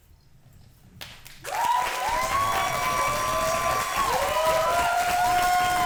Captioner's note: audience applauds and cheers